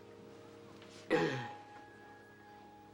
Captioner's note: clears throat